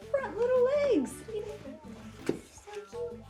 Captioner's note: giggles